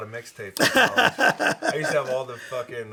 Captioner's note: laughing